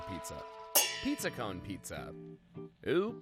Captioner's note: metal clangs